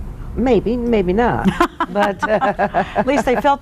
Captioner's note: laughter